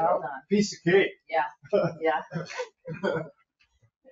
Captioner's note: chuckling